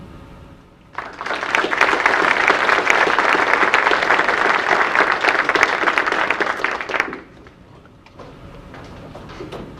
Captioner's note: audience applause